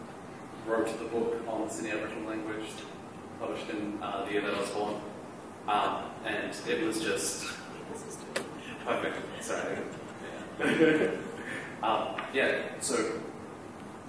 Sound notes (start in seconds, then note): 12.2 laughter